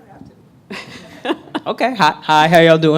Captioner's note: laughing